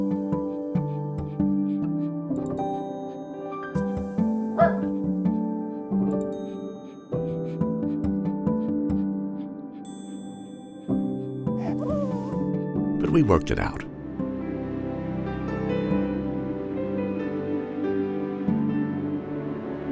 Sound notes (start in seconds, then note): 0.2 gentle music; 4.5 puppy barks; 6.7 gentle music; 11.6 puppy whines; 15.4 gentle music